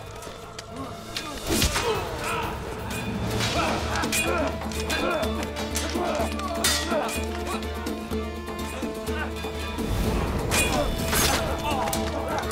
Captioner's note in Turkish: Savaş sesleri